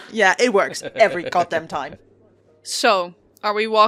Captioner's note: laughter